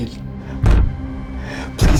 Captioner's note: banging